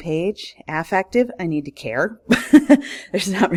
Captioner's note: laughs